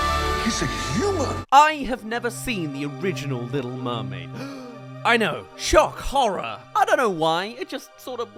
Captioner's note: gasp